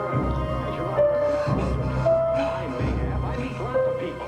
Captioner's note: Richard breathing heavily